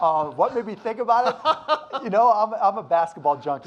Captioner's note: laughs